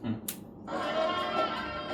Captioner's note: click